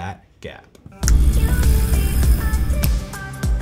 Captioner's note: lively upbeat music; boat engine roaring; lively upbeat music